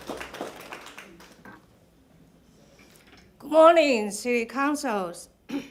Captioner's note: applause